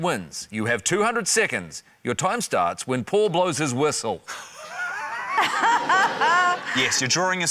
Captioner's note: laughter